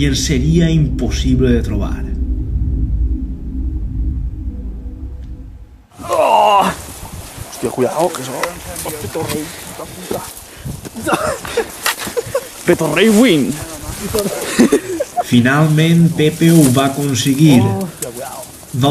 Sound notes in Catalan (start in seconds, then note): 6.1 Gemeca d'esforç